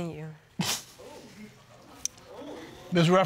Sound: scoffs

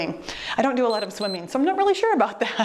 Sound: timer beeps

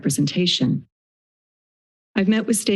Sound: silence

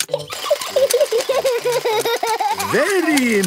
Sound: giggling; George laughing

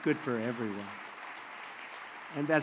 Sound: applause

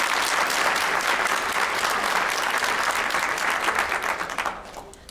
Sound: applause

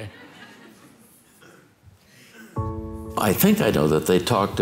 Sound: congregation laughing

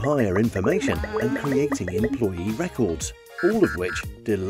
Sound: alarm buzzing

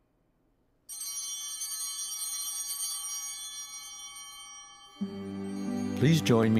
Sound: chimes ringing

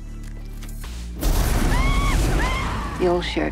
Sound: screaming

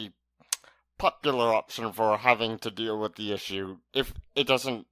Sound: smacks lips

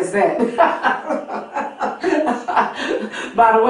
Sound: laughing

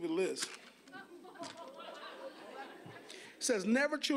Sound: audience laughing

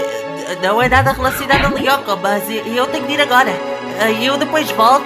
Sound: struggling

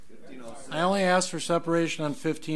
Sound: overlapping chattering

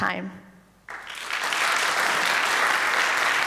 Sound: applause

